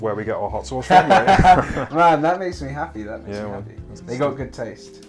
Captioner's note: laughter